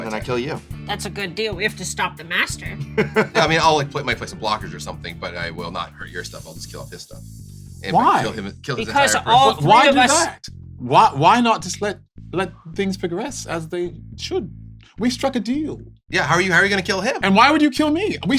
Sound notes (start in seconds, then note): 3.0 laughs; 6.9 sucks air through his teeth